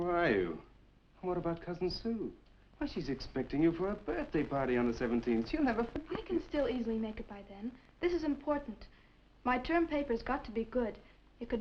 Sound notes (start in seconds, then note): none